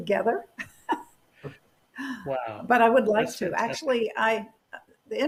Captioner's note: laughter